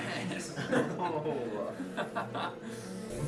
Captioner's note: exhausted laughter